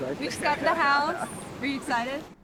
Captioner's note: laughs